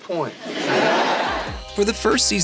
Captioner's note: laughing